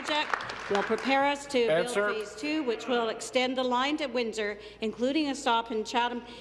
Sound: applause

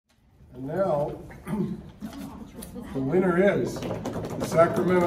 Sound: sound of people drumming on tables

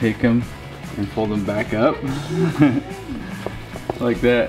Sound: chuckles

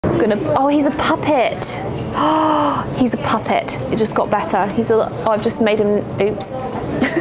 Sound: gasps

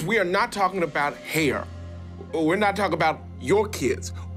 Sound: none

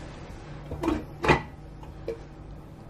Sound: thud

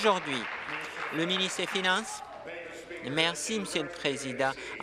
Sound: applause

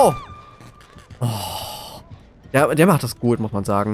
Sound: sigh

